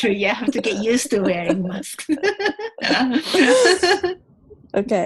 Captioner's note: laughing